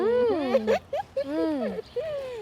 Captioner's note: giggles